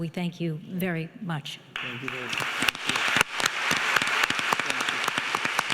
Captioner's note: audience applauding